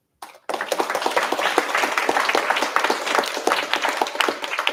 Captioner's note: applause